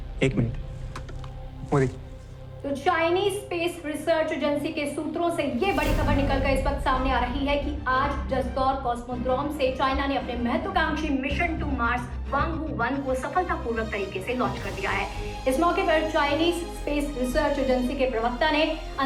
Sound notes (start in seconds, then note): 2.6 news on TV